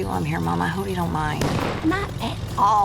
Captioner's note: car backfires